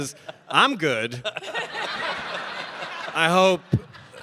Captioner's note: audience laughing